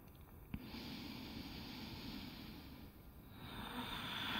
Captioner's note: deeply breathing